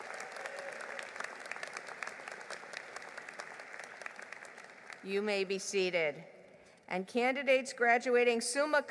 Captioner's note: applause